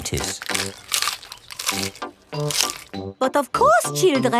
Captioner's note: munching